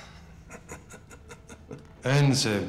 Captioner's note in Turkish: Gülüyor